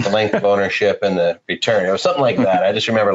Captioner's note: laughing